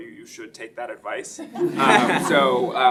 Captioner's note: laughing